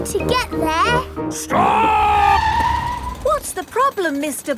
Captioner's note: tires screeching